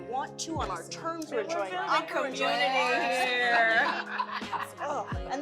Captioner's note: laughter